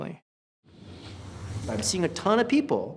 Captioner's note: whooshing